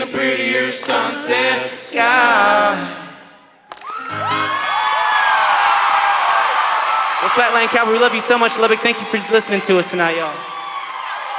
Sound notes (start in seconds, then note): 3.6 applause